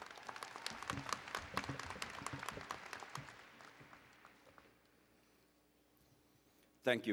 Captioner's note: applause